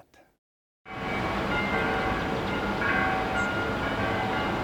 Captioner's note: bell tolling